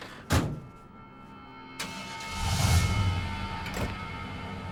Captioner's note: engine turns over